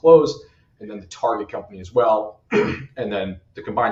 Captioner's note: clears throat